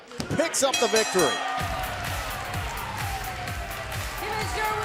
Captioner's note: bell ringing